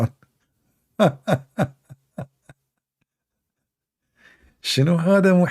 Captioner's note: Ketawa